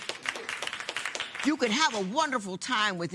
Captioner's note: applause